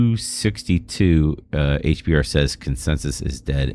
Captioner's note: uh